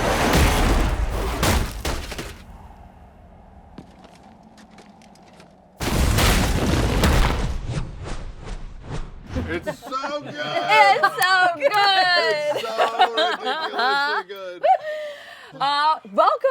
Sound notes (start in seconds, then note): 0.0 spell whipping and striking; 0.4 impact; 1.4 bouncing thuds; 2.2 wind howls; 5.7 crashing impact; 8.0 panels whooshing